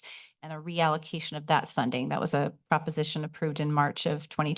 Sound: none

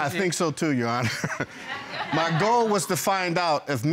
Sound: chuckles

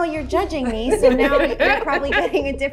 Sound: laughter

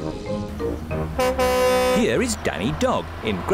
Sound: horn honks

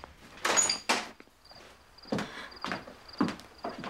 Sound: door opening

